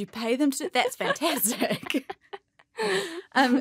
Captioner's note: laughs